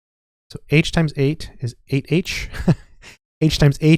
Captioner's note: chuckling